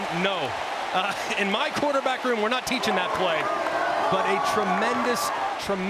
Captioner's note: cheering